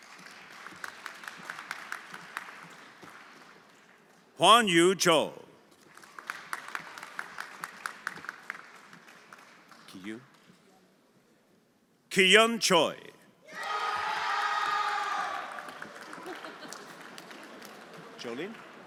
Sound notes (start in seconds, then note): 0.0 everyone applauding; 5.9 everyone applauding; 13.6 everyone applauding and cheering